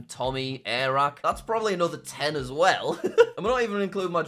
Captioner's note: laughs